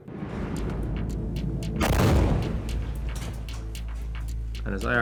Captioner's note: missile booms